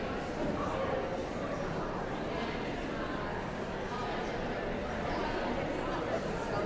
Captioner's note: audience chattering continues